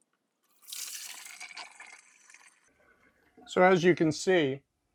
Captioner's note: pours water